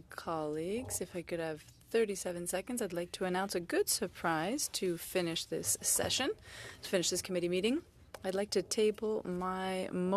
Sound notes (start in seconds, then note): 4.9 speaking French